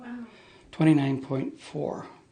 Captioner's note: voiceover